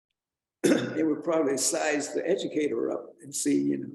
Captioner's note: clears throat